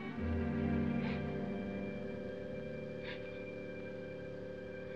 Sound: crying Softly

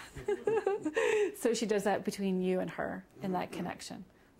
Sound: laughing

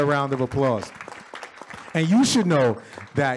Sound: audience claps

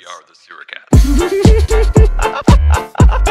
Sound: laugh section

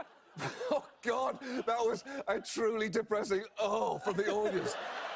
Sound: john oliver, laughing

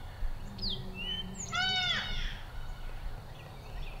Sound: deer call

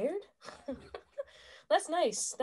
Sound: laughing

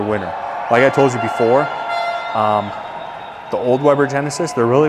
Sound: audience applauding

